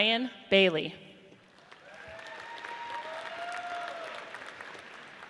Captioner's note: audience cheers